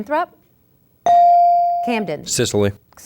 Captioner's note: ding